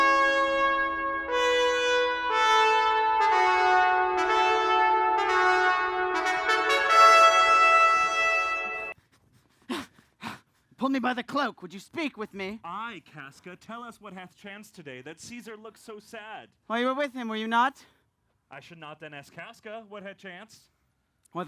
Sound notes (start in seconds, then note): 9.0 breathes heavily